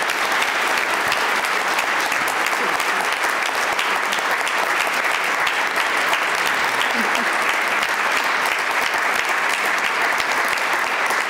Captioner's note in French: Applaudissements